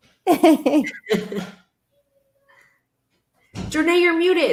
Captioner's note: chuckling